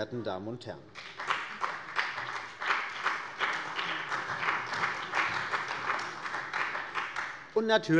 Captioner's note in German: Beifall bei der CDU und dem BÜNDNIS 90/DIE GRÜNEN